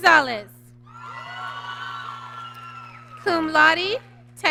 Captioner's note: applause